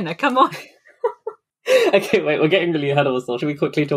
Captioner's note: laughing